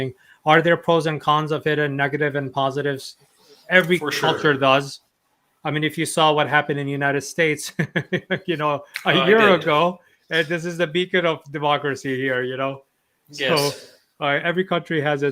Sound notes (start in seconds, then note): 9.0 laughs